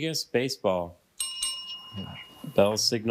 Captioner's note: bell ringing